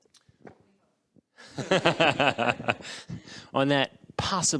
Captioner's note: all laughing